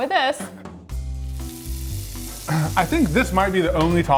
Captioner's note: slow jazz music; butter sizzling